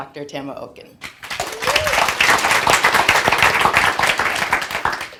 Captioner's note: audience clapping